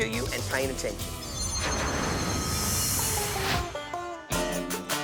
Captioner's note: air whoosing; rock music